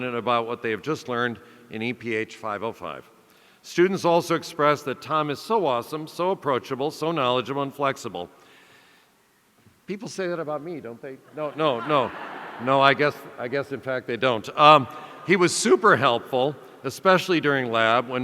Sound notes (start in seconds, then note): 11.3 audience laughing